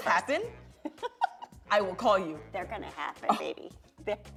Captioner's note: laughs